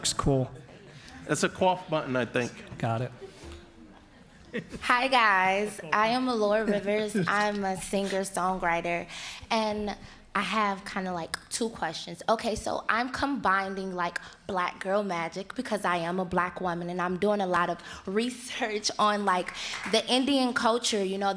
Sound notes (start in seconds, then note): 3.2 audience laughs